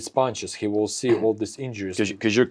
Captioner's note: clears throat